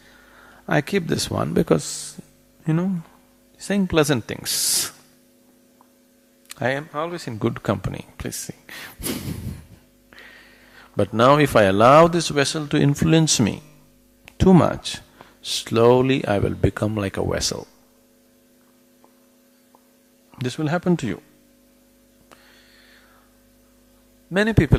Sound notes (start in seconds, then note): 9.0 laughs